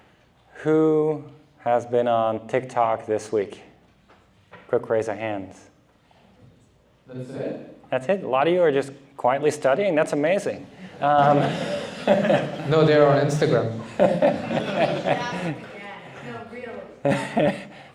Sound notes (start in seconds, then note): 14.0 laughter